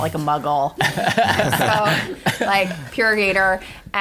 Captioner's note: laughter